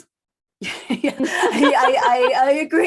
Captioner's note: laughing